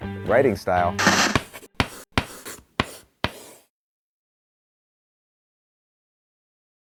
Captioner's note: TV static; chalk writing